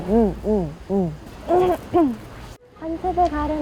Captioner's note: /Changing her voice